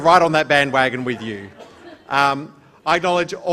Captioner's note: laughter